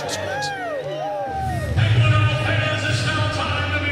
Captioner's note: audience cheering